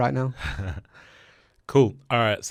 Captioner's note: chuckles